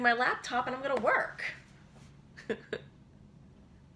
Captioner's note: chuckles